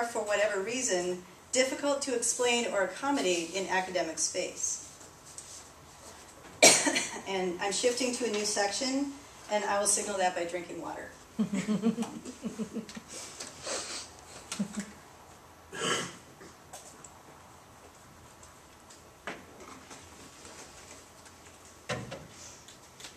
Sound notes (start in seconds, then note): 5.3 coughs; 14.2 laughter